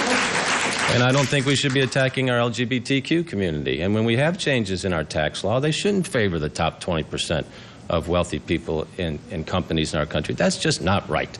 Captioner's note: applause